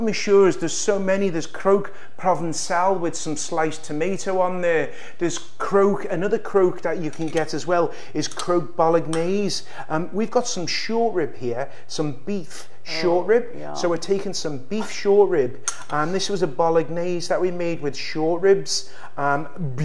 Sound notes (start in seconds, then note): none